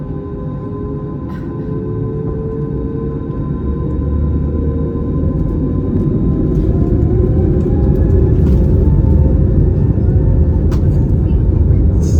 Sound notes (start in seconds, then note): 4.2 engine sounds